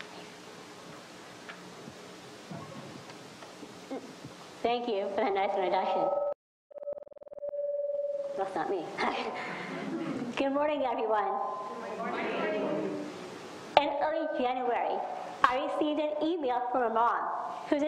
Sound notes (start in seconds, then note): 6.8 microphone feedback; 9.0 laughs